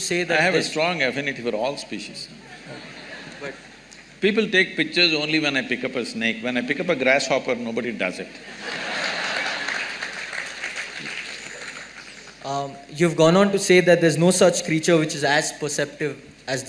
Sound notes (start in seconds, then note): 8.4 laughter